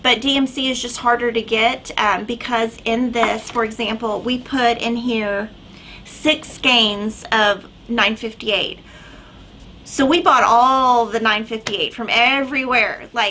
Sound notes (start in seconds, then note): none